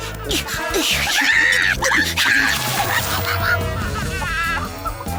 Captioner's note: panicked chicken screeching